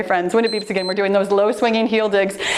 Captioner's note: timer beeps